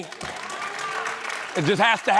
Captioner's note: applause